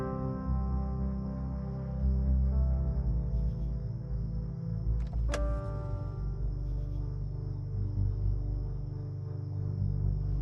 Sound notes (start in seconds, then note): 0.0 poignant music continuing to play; 4.7 crickets chirping